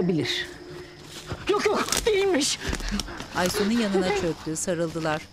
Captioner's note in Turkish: Çıtırtı sesleri